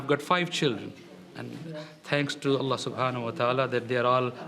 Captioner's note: speaking in foreign language